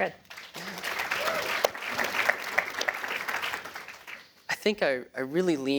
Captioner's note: applause